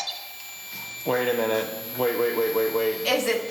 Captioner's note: voiceover